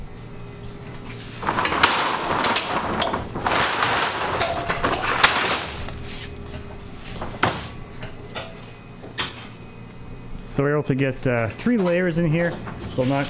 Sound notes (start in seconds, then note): 1.3 metal clanking